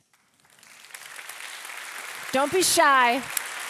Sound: audience applauding

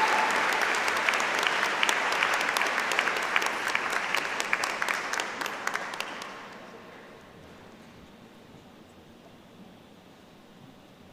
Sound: applause

